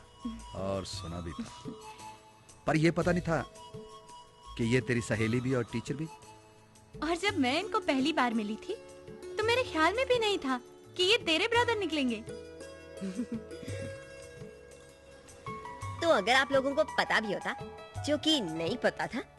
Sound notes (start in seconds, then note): 1.3 chuckling; 13.0 chuckling